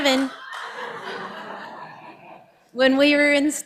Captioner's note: audience laughing